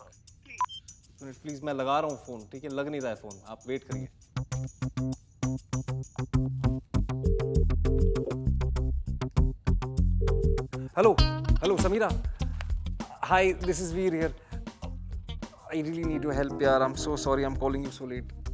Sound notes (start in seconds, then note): 7.2 line ringing